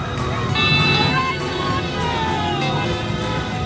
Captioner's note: vehicles hooting; siren wailing